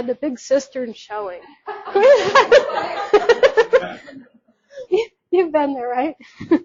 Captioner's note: speaker laughs